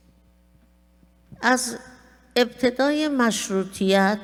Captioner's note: speaking persian